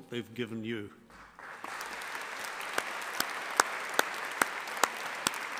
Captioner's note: audience applauding